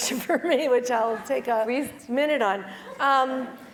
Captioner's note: laugh